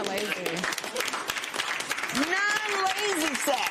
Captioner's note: applause